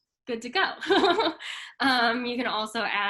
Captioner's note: chuckles